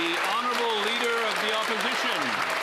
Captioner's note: cheering and Applause